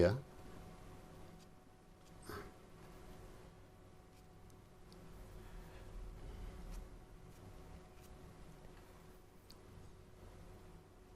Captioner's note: silence